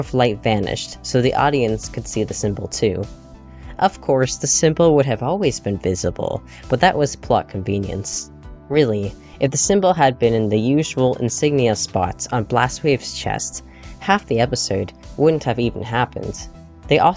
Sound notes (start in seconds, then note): none